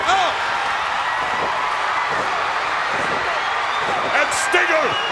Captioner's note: crowd cheers